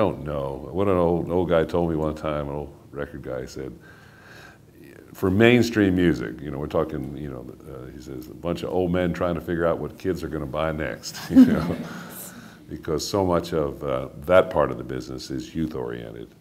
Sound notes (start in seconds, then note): 11.2 laughing